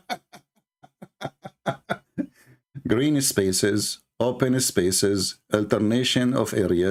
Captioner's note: Ketawa